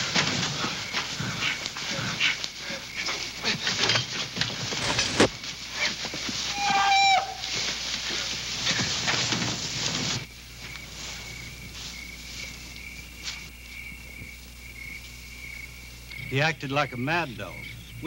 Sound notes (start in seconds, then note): 6.5 Olaf screaming